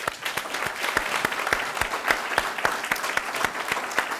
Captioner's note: audience applauding